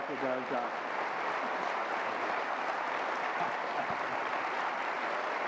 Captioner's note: audience applause